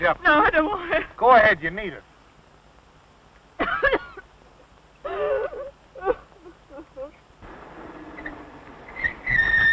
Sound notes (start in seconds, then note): 3.6 coughing; 5.0 sobbing